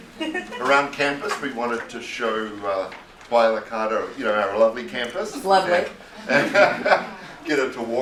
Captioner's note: laughter